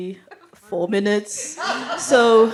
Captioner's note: laughter